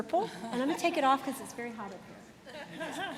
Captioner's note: laughter